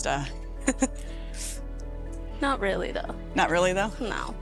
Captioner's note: laughing